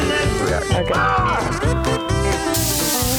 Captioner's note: yells